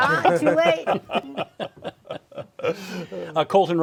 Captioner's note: laughing